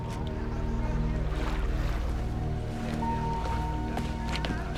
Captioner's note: water sloshing